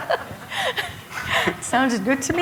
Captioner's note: laughter